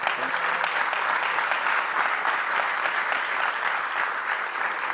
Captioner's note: audience clapping